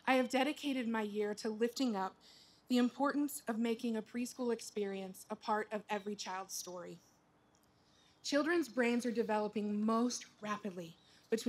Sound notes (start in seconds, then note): none